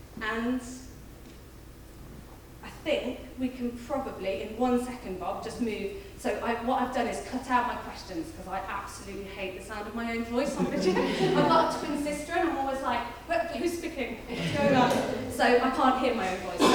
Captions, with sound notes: And I think we can probably, in one second Bob, just move. So what I've done is cut out my questions 'cause I absolutely hate the sound of my own voice on particular. I've got a twin sister and I'm always like, "Who's speaking? What's going on?" (audience laughing) So I can't hear my own voice.